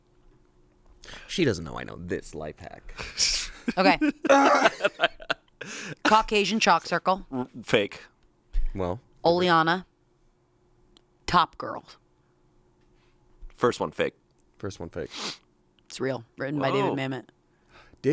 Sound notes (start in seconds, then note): 3.8 laughs